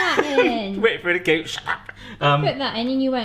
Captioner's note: laughs